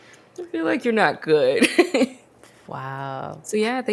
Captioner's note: laughs